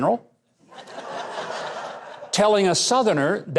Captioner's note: audience laughs